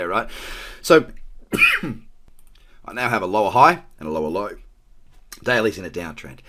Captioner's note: coughs